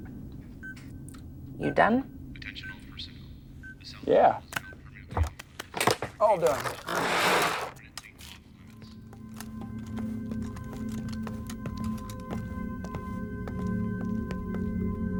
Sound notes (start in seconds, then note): 10.2 boots tapping